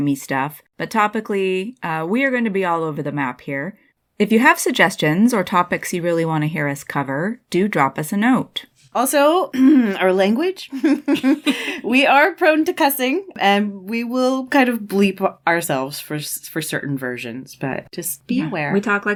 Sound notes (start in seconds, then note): 9.5 clears throat; 10.7 laughter